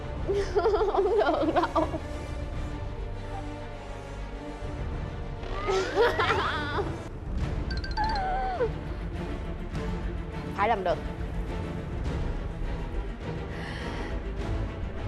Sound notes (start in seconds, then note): 0.1 whining; 5.4 yelling